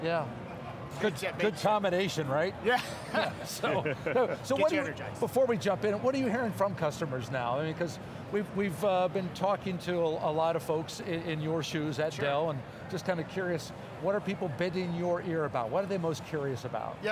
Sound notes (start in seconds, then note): 2.7 laughs